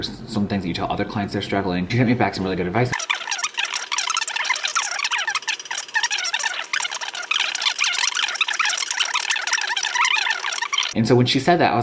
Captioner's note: record scratch